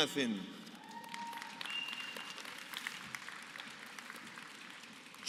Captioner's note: applause